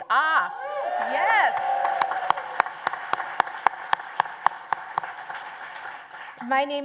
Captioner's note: applause